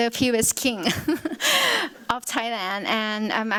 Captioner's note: laughs